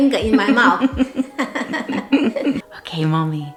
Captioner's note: laughs